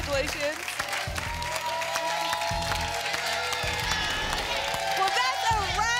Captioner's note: applause and cheering cont